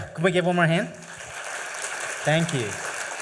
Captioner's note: applause